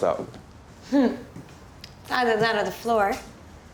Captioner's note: chuckles